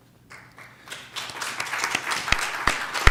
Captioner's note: applause